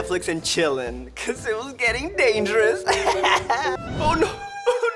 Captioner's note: laughs; sobbing